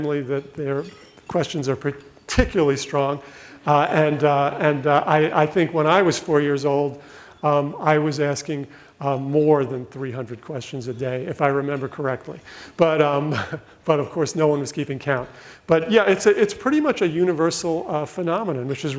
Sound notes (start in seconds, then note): 13.3 laughs